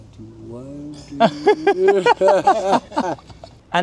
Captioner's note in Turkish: kahkaha